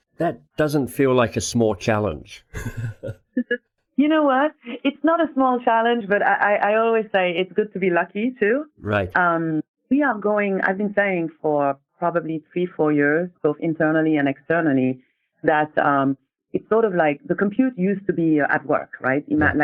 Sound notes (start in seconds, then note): 2.5 laughing